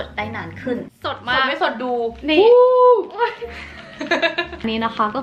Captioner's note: laughing